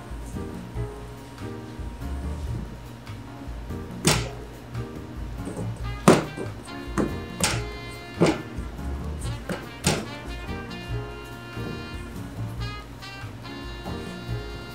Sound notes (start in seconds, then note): 5.2 light metal thuds; 8.7 light music